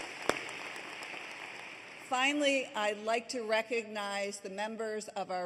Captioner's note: applause